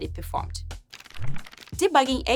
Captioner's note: fluttering